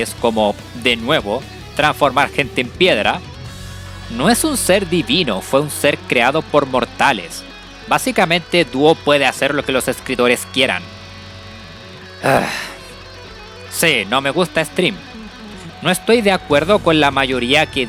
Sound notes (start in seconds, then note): 12.2 sigh